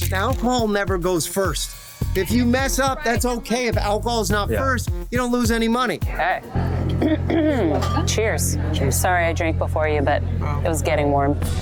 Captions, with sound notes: Now, Paul never goes first. If you mess up, that's OK. If alcohol's not first, you don't lose any money. Hey. [CLEARS THROAT] Cheers. Cheers. Sorry, I drank before you, but it was getting warm.